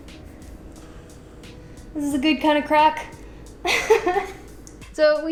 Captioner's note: laughs